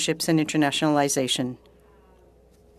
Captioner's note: speaking French